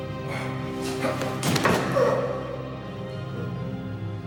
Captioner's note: groans